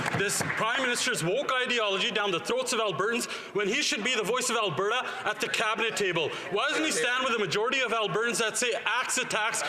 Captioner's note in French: voix de l'interprète